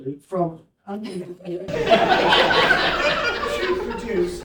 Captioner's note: laughter